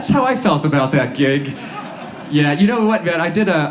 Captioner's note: audience laughs